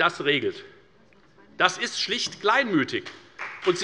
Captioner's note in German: Beifall bei der FDP